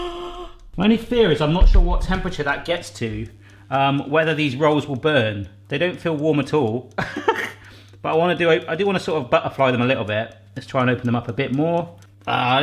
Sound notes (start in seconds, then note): 0.0 gasping; 7.0 laughing